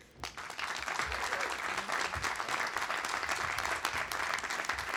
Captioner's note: audience applauding